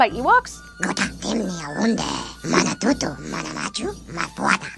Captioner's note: speaking ewok